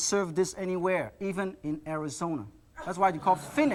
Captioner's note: crowd laughs